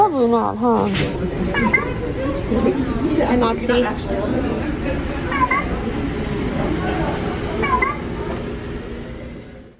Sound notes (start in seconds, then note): 1.6 robot beeps; 5.9 robot continues beeping